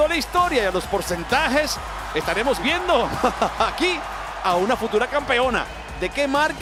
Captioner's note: laugh